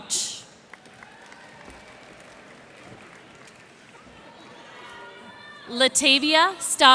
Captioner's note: cheers and applause